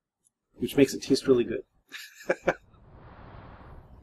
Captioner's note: laughs